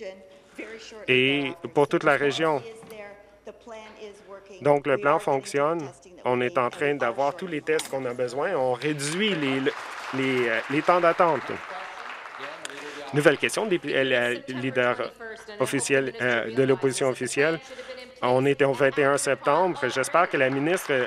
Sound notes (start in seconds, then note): 11.9 some Applause